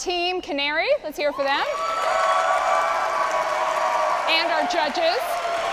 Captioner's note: audience applauding